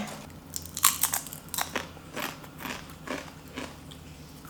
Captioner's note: chip crunches